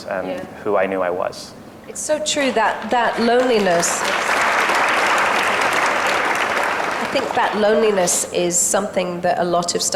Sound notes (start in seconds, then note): 2.4 audience and Emily applauds